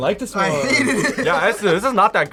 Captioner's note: laughs